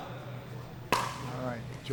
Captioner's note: ball being hit